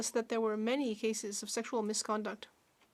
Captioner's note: speaking Alternate Language